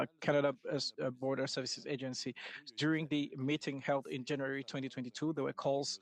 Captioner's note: speaking French